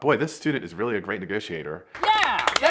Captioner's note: everyone clapping